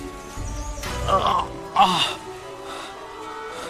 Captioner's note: grunting